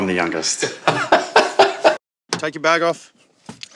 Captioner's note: laughing